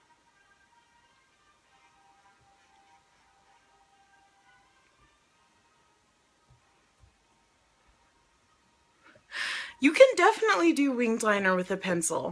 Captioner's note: gasps